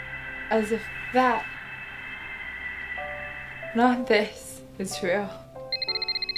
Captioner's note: phone rings